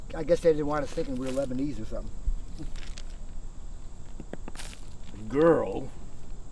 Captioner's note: chuckles